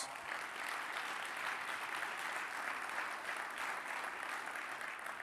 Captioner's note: audience applauding